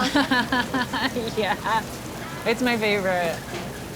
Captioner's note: laughs